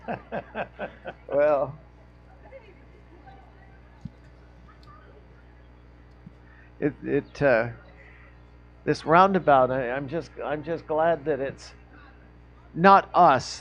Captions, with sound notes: (laughing) Well, it, this roundabout, I'm just glad that it's not us